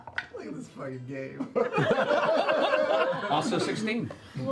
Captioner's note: laughter